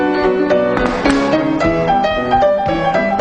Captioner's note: upbeat jazz music; feet stomping